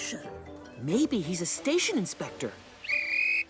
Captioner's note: whistle chirps